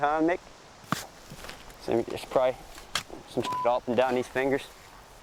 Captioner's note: digging sounds